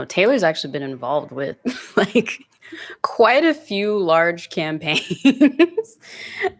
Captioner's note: giggles